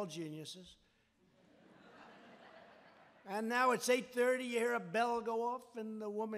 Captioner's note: laughter